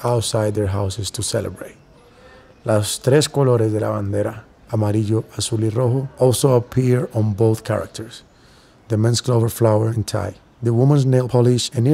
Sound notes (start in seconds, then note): 2.5 speaking spanish